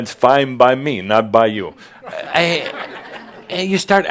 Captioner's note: more chuckles